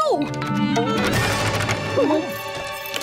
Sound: rattling

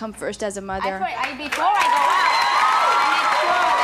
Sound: applauding

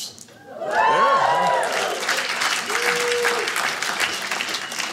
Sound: audience cheering

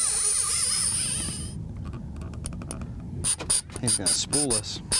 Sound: zzz-zz-zzz

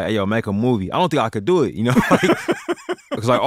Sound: laughter

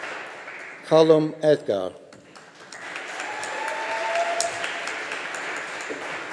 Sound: audience applauding

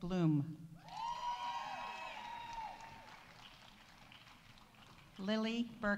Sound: audience cheering; audience applauding

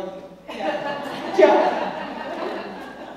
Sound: laugh

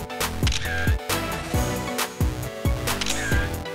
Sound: camera clicking; upbeat music continues

